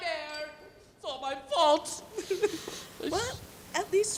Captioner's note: sobs